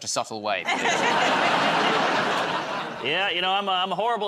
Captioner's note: laughter